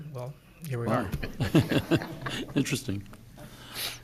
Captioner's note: laughs